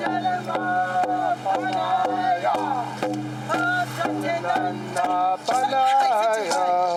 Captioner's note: chanting